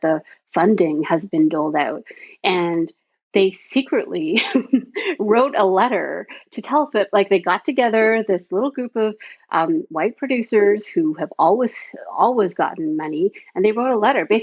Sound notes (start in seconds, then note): 4.4 chuckles